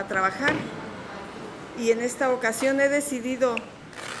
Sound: speaking in Spanish

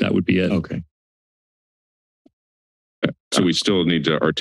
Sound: silence

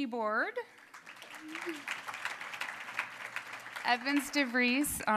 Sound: applause

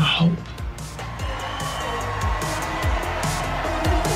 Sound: cheering

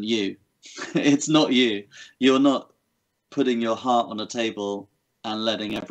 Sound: chuckles

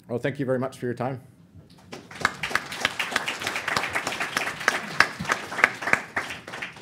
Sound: applause

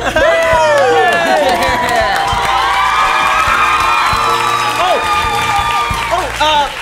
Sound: cheers

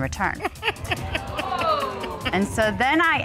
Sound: Judge Dana Laughs

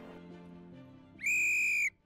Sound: whistles

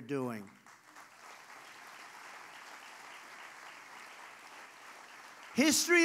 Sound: applause

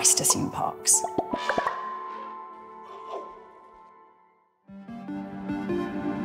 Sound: logos popping; elephant trumpeting; pensive music

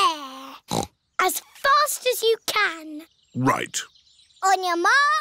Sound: snorts

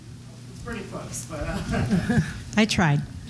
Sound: laughter

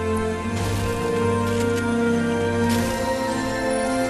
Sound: gaming noises

